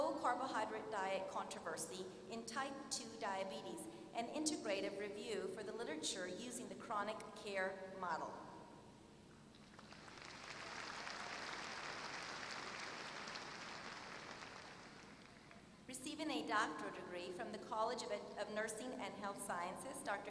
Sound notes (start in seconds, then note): 9.6 applause